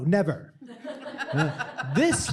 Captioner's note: chuckling